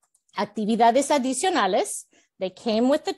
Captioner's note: Spanish